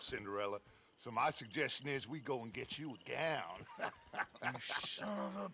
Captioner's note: laughs